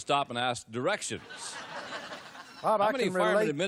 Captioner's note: laughter